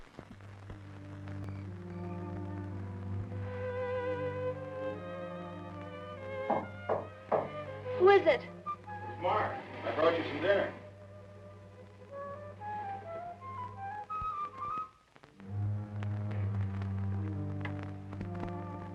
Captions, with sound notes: (gentle music) (crickets chirping) (door knocking) - Who is it? - It's Mark, I brought you some dinner. (ominous music)